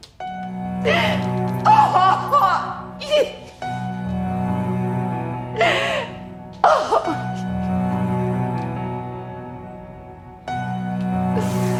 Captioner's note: crying